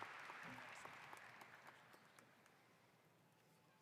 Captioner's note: applause